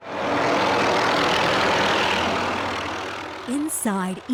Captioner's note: helicopter whirring